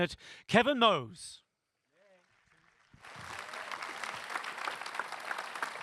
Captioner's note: applause